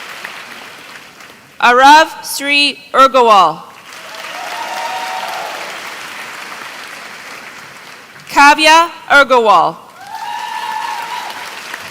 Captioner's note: applause